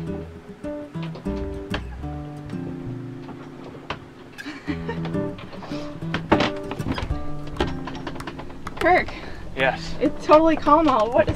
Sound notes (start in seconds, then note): 4.3 laughing